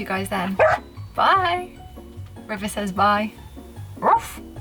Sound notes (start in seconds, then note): 4.0 River barks